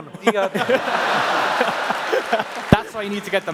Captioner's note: laughs